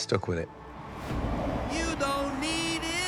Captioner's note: audience cheers